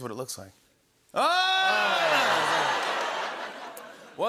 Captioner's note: laughter